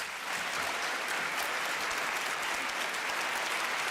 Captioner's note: applause